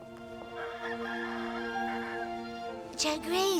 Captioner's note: rooster crows